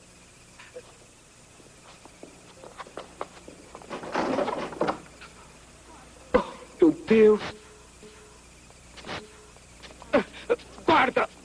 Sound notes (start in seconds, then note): 7.5 breathing hard